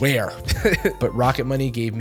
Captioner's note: chuckles